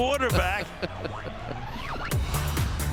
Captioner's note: laughing